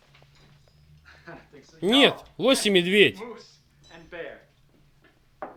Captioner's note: chuckles